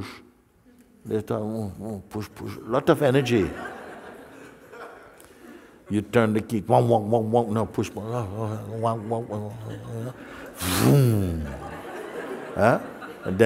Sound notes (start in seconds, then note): 3.2 laughter